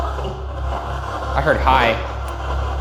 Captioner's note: spirit box chattering